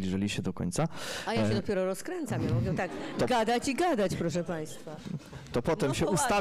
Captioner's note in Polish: śmiech